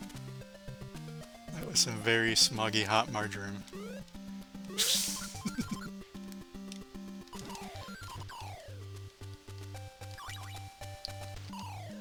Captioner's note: laughs